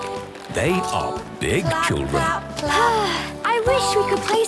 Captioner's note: Belinda sighing